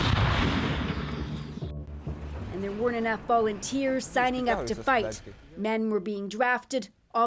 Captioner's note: bombs